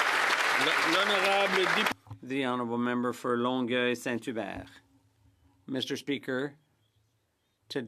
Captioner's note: applause